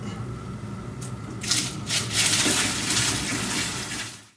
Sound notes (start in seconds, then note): 1.9 water splashing